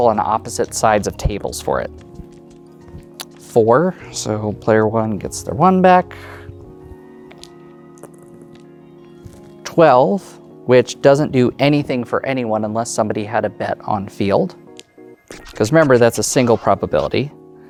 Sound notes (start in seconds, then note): 7.7 dice rolling; 14.7 dice rolling